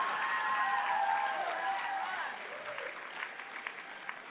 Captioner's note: cheering